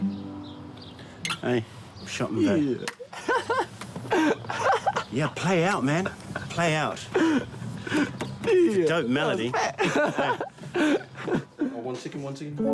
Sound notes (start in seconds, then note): 3.9 laughing; 7.6 laughing